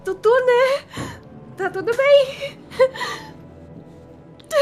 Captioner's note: sobs